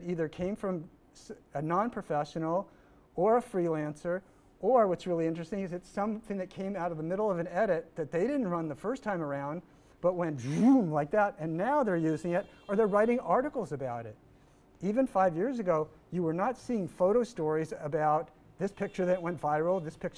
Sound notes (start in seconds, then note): 10.4 mimics engine revving